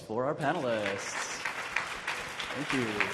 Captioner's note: audience clapping